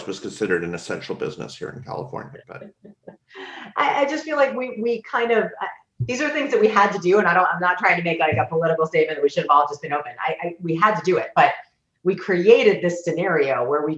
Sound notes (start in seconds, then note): 3.2 laughs